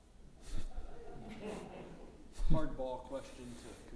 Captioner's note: audience chuckling